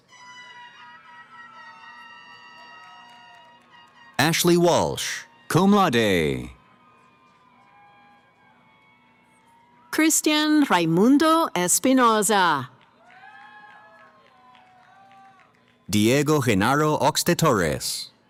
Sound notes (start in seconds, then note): 0.2 cheering; 6.2 cheering; 12.7 cheering